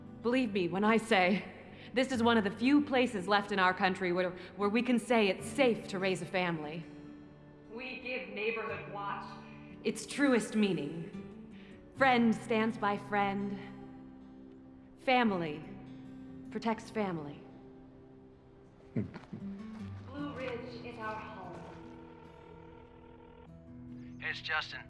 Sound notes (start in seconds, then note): 18.8 scoffs; 20.9 phone ringing